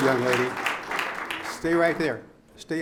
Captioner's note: audience applauds